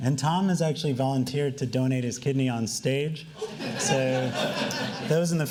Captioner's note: laughing